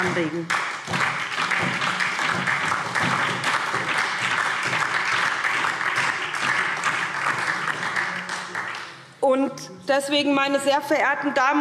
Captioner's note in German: Beifall SPD und DIE LINKE